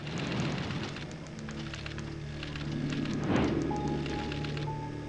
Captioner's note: typewriters clacking